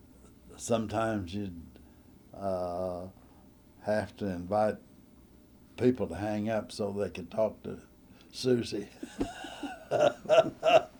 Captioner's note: laughter